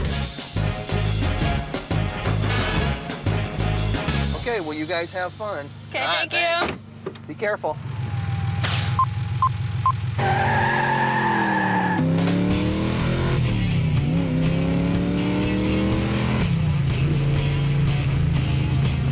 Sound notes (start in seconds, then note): 0.0 60's pop music; 8.4 tires squealing; 8.9 beeping; 12.0 guitar rock music; 15.4 engine revving